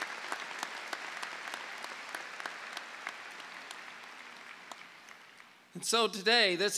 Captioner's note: clapping